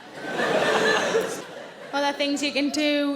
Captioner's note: audience laughing